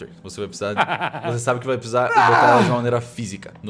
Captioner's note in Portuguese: grito de ódio